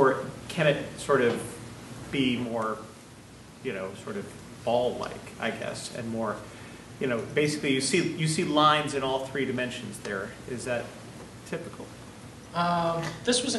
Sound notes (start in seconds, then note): none